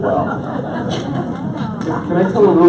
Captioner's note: audience laughs